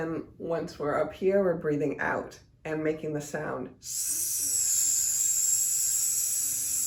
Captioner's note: hisses